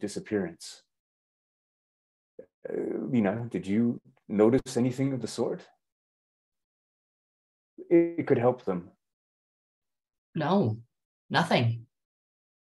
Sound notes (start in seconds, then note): 6.8 silence